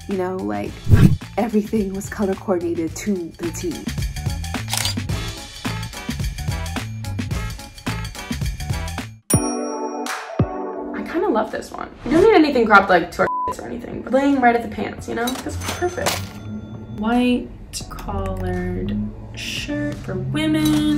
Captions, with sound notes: You know, like everything was color coordinated to the T. (camera snapping) (funky music) (upbeat music) - I kind of love this one. You don't need anything cropped to like to our (beep) or anything, but then you might at the pants, you know? That's perfect. White collared shirt for women.